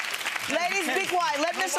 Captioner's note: clapping